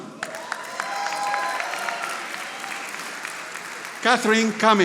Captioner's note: audience applauding